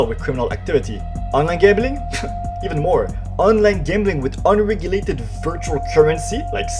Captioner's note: scoffs